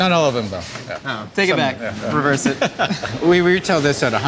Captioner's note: laughs